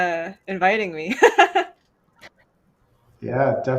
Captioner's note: laughs